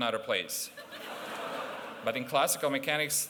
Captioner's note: laughter